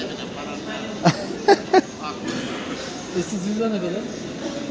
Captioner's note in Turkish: kahkaha